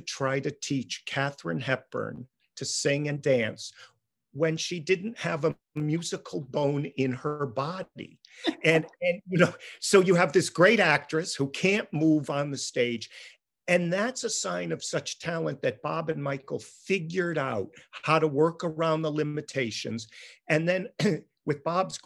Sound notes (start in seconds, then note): 8.4 laughing